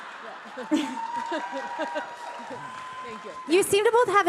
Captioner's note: audience applauding and cheering